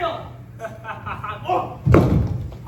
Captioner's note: William laughs